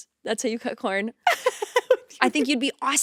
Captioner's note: laughing